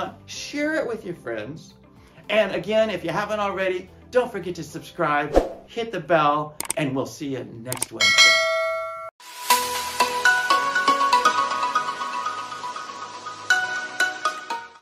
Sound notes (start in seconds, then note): 6.6 clicking; 8.0 bell rings